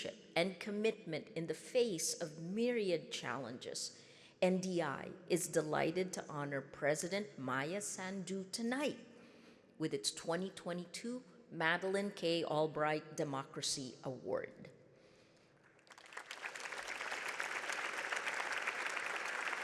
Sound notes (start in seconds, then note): 15.7 audience clapping